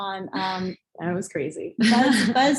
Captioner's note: laughs